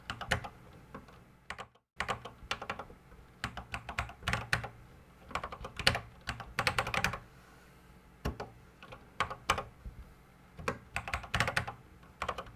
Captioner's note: typing on a Commodore 64 keyboard